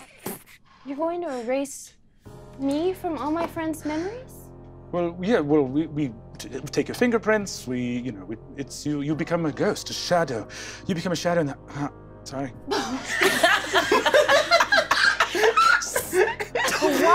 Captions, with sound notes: - You're going to erase me from all my friends memories? - Well, yeah, we take your fingerprints. We, you know, it's you, you become a ghost, a shadow. You become a shadow in that-- Ugggh. Sorry. (all laughing)